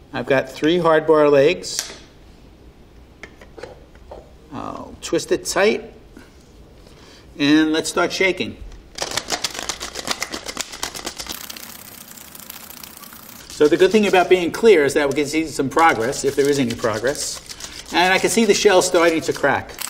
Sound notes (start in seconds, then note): 9.2 eggs clacking; 19.7 eggs clacking